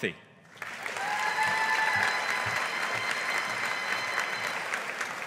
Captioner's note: audience applauding